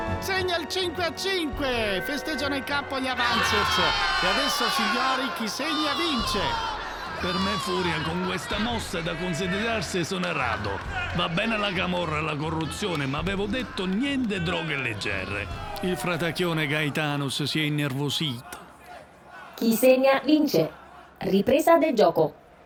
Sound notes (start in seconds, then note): 5.7 shouting and exulting